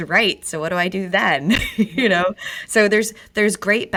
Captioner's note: laughs